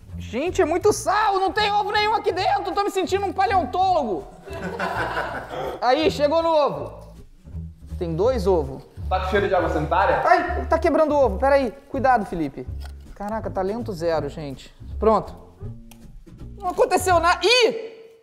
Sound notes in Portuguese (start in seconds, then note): 4.4 risadas